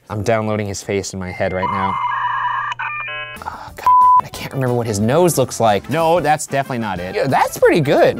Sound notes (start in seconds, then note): 1.3 internet beeping